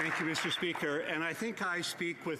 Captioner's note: applause